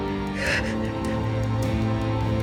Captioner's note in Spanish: sollozos